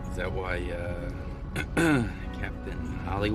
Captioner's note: clears ththroat